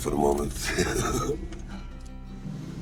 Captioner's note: laughs